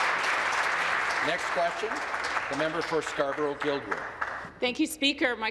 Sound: applause

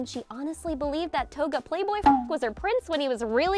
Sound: beep

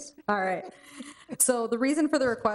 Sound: both chuckling

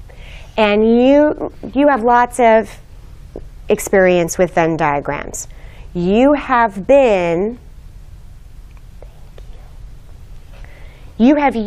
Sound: whispering

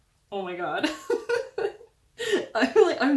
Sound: laugh

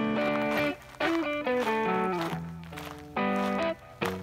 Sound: footsteps crunching; mellow guitar music

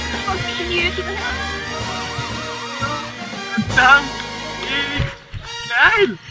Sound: undefined cheering!

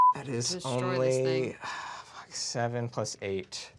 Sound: beep; sighs

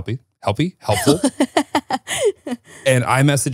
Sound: laughing

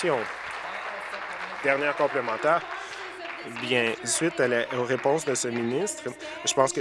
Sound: applause

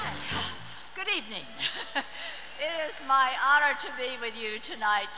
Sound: laughs

